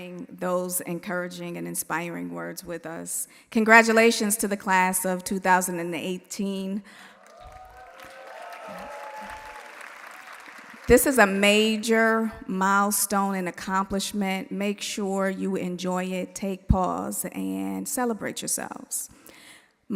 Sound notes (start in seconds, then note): 7.1 audience applauding; 7.1 audience cheering